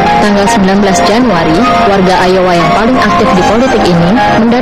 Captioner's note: speaking indonesian